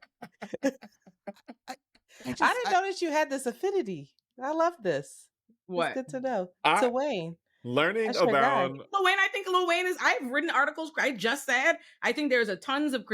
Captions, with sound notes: (laughing) I didn't notice you had this affinity. I love this. What? Good to know. I'm learning about-- LaWayne, I think LaWayne is, I've written articles, I just said, I think there's a tons of